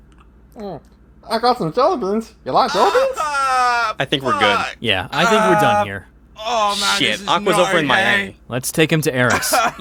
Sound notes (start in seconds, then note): 0.5 chewing; 2.7 pained noises